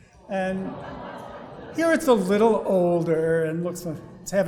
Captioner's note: audience awws